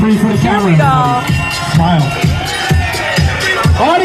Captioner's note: cheers and applause